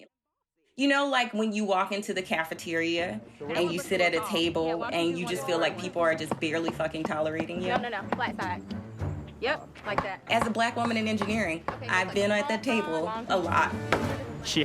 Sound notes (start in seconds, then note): 6.7 soundbite of tv show, "survivor: cagayan"; 11.6 soundbite of tv show, "survivor: cagayan"